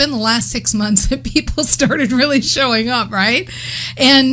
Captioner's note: laughs